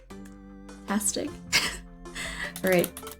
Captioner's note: laughs